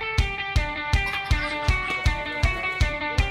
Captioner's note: laughing